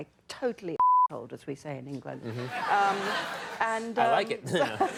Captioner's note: audience laughing